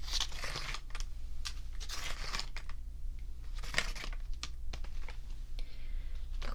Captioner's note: plastic shuffling